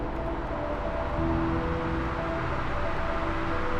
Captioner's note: wind hissing